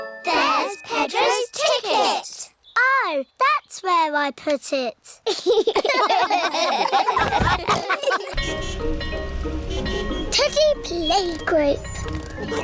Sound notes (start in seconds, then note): 5.2 all laugh; 8.3 car horns beeping